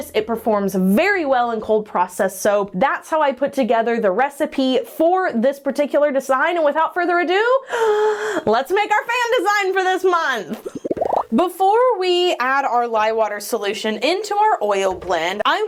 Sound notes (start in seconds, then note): 7.9 inhales; 10.5 bubbles popping